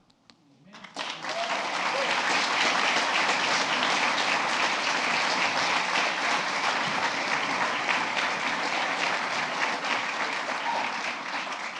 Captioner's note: applause